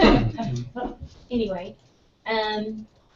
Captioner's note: laugh